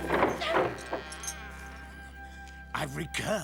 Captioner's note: door creaking